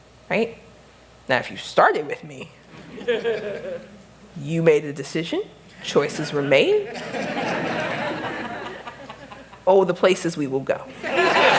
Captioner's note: laughter